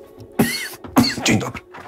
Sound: coughing

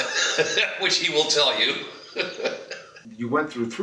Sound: laughs

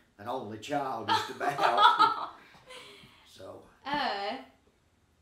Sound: both chuckling

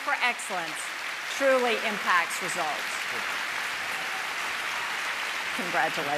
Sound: applause

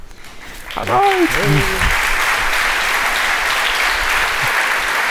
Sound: applause

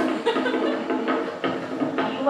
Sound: laugh

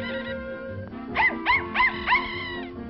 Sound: bark, Bark, Bark, Bark

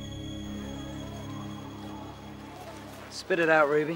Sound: townspeople chattering in background

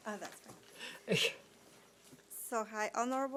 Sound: chuckling

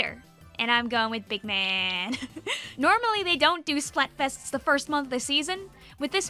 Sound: laughs

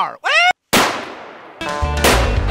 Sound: yells; gun fires

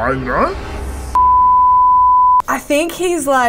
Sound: beeps

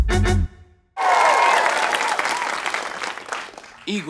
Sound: audience cheers

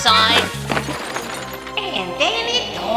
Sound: crash

